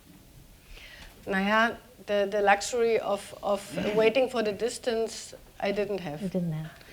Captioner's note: speaking german